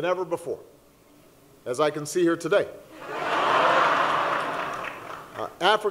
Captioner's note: laughter